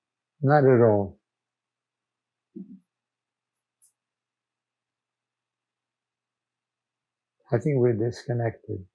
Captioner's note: pauses 6 seconds